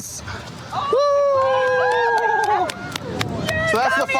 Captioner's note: cheering